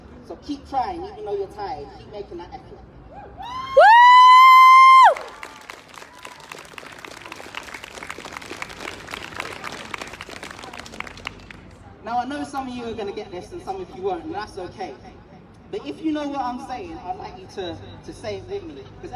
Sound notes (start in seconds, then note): 3.1 whooping; 5.4 applause